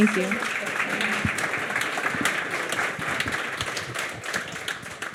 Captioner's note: audience applauds